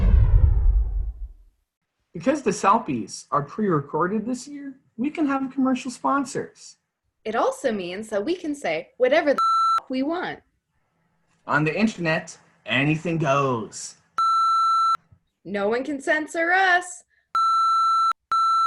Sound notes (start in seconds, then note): 9.4 beep; 14.2 beep; 18.2 excessive beeping